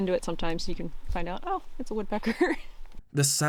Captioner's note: chuckles